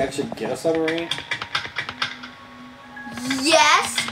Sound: footsteps on metal

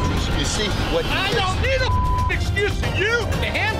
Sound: beep

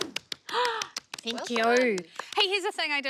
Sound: clapping; gasps

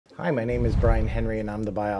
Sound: digital Whoosh

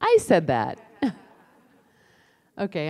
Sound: laughter

